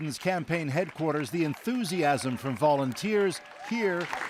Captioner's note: applause